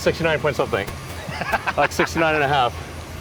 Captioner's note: laughs